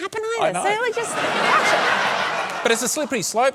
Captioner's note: laughter